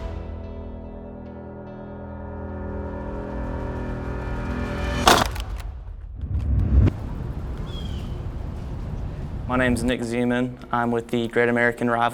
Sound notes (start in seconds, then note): 1.2 music building up; 5.0 pads hitting